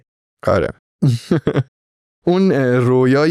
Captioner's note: laughs